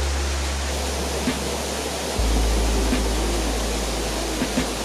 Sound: water rushing

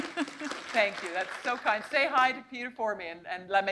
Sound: laughter

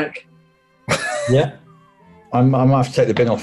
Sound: laughs

